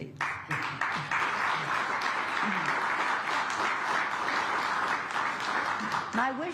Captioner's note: applause